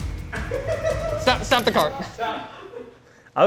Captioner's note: camera snaps